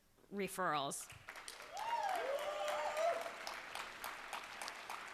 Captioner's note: cheers and applause